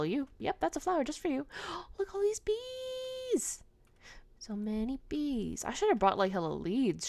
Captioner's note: gasp